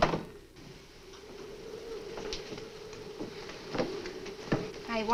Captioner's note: muffled wind howls